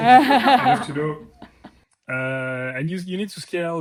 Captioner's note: laughs